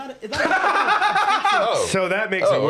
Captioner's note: laughs